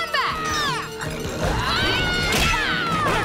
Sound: screaming

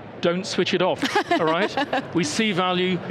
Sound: laughs

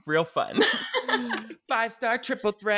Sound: laughing

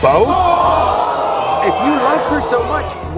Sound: audience screaming

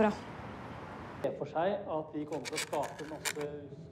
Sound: scratching

